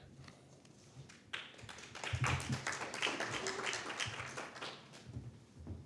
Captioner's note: audience applauding